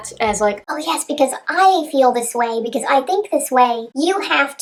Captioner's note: high-pitched voice